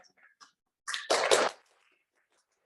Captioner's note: applause